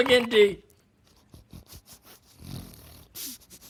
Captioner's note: snuffling